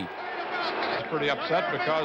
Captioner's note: audience chaos